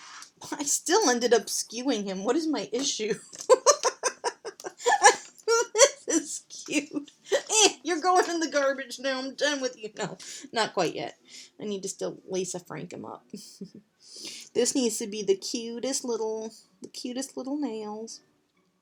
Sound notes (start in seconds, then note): 3.3 hearty laugh